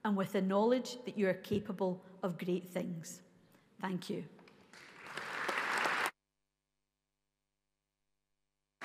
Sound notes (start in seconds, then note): 4.7 audience applauds